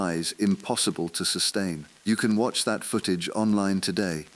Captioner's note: whispering